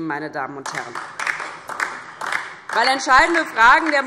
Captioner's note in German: Beifall DIE LINKE und Freie Demokraten